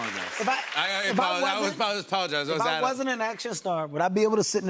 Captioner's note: normal voice